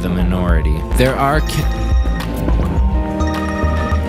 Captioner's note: ringing